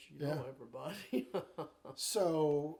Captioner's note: chuckling